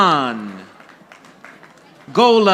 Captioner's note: audience applauding